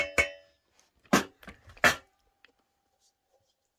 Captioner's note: dishes noise